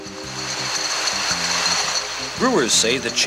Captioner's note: bottles rattle